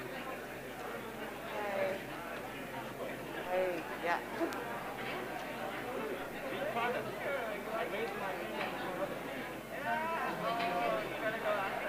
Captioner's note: background chatter